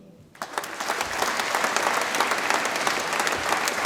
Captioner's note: audience applauds